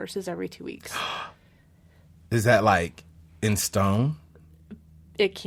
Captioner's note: gasps